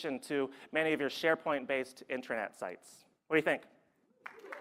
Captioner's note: applause